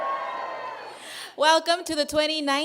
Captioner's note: cheers